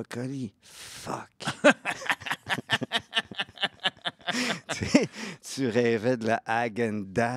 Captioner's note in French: rires